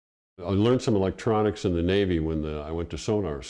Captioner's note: voiceover